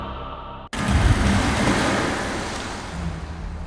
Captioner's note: loud splash